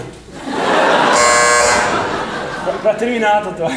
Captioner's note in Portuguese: campainha